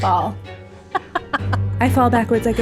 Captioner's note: laughing